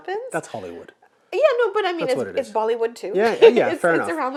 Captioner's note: laughs